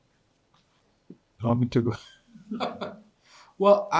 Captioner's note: participants laughing